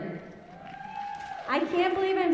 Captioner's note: audience cheering